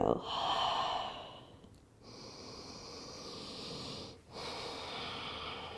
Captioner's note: exhaling and inhaling